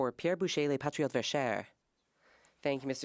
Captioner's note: speaking French